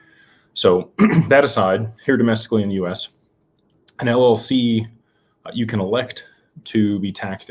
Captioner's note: clears throat